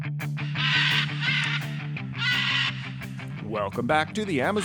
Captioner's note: macaws calling